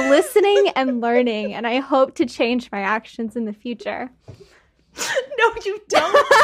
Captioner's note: laughing